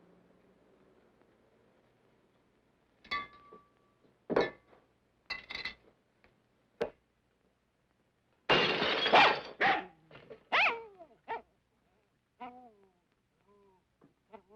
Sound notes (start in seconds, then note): 8.4 glass breaking; 10.5 dog barking